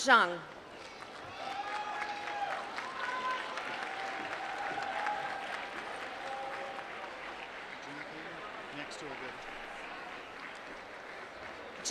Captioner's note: applause